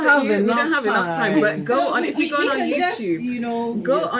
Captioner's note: laughter off screen